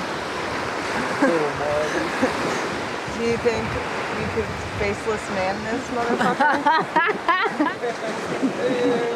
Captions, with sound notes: (laughing) Do you think you could faceless man this mother fucker? (all laughing)